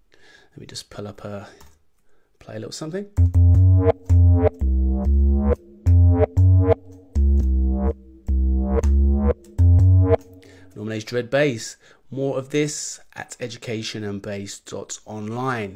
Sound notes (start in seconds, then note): 3.2 electronic tones